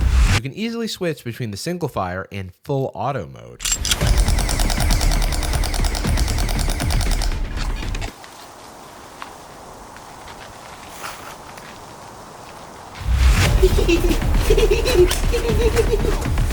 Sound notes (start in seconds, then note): 0.0 tense music; 3.6 Gel Blaster firing repeatedly; 8.1 white noise; 13.4 giggling like a gremlin